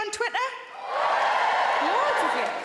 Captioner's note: audience cheering